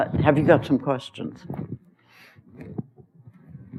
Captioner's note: pause